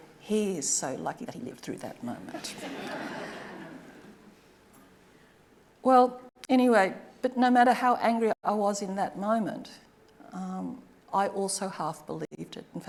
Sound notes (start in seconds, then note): 2.4 audience laughing